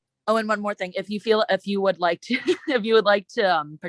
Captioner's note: chuckles